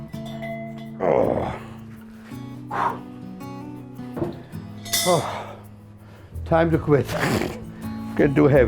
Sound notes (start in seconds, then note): 2.7 exhales sharply; 7.0 snorts